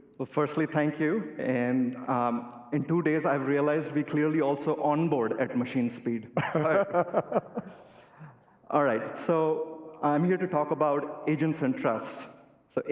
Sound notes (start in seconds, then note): 6.3 laughter